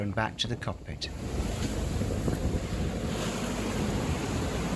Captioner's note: wind noise